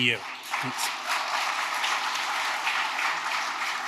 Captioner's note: audience applauding